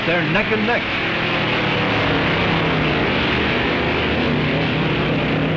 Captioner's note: hot rods revving